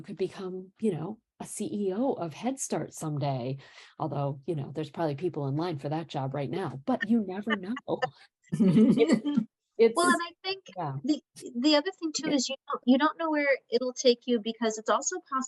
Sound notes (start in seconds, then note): 8.6 laughter